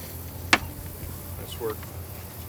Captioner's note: paddles clacking